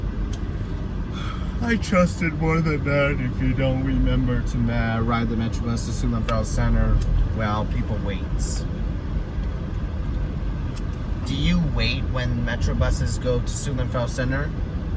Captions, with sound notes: [slurring] I trusted more than that if you don't remember to ride the metro bus to Suitland Federal Center. While people waits. Do you wait when Metro Buses go to Suitland Federal Center?